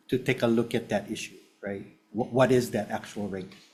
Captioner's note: none